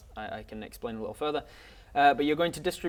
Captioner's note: none